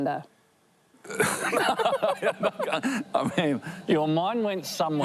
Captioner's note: laughs